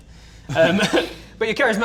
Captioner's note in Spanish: Risas